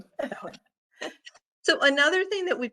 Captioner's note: chuckling